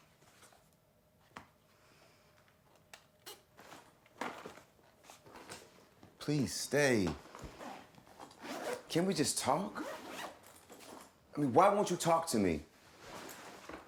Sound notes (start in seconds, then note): 8.1 zipper zips